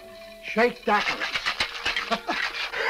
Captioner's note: ice rattling; laughs